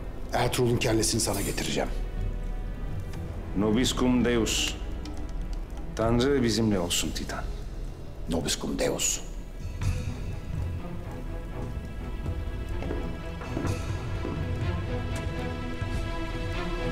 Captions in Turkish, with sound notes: Ertuğrul'un kellesini sana getireceğim. (Yabancı dilde konuşma) Tanrı bizimle olsun Titan. (Yabancı dilde konuşma) (Müzik - Gerilim)